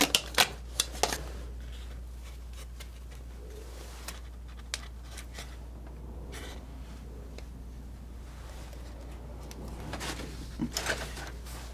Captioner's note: scratching